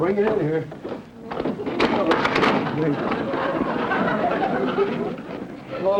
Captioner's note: tub sliding across floor